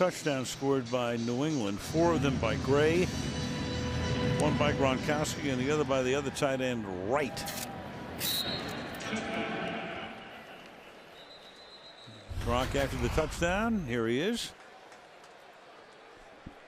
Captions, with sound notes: There are 6 touchdowns scored by New England, 4 of them by Gray, 1 by Gronkowski, and the other by the other tight end, Wright. [pa announcement] [whistle] Gronk after the touchdown. Here he is.